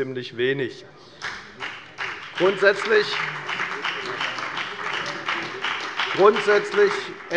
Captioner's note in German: Beifall bei der FDP